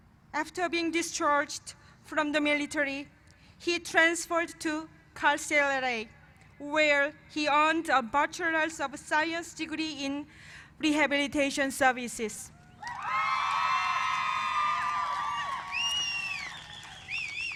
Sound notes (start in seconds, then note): 12.7 cheers and applause